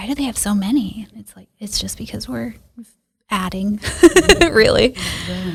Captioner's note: laughs